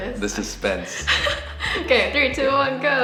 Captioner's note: chuckles